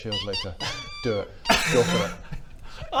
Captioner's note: tormented squeaks